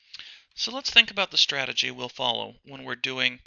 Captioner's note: voiceover